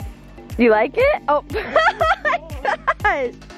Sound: laughs

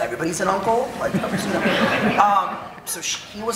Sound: audience laughing

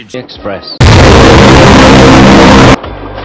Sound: Inception foghorn

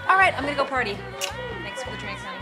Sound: lips smack

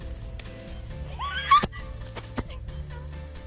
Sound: both shriek

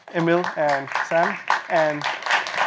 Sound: applause

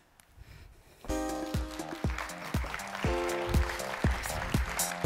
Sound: applause

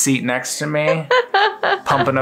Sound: laughing

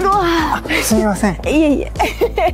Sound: speaking in Japanese; laughing

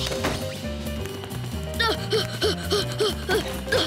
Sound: panting

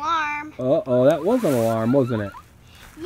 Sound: voiceover

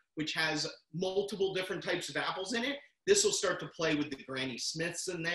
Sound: none

